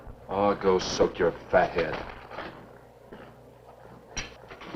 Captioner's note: none